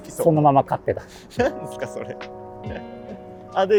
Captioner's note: laughing